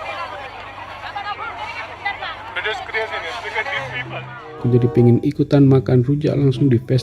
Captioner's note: laugh